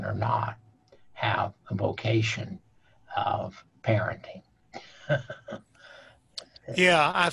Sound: chuckling

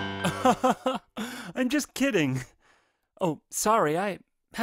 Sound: laughs

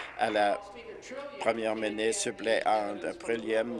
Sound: applause

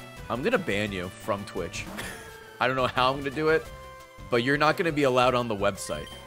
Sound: laughs

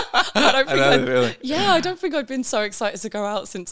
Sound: laughing

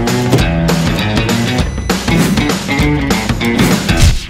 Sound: microwave ready ding

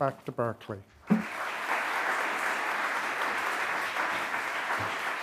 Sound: audience clapping

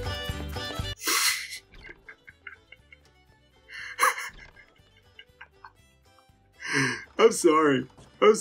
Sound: laugh

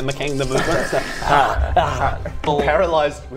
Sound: rwrr rwaar

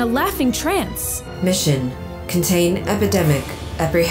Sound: female Robotic Voice

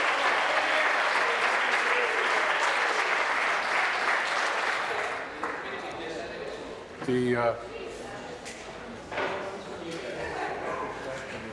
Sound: applause

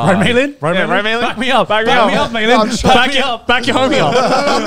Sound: group chattering

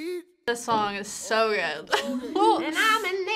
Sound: laughs

